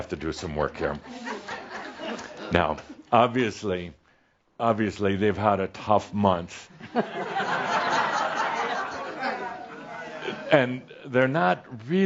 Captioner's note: some chuckles; laughter